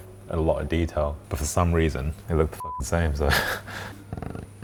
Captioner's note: chuckling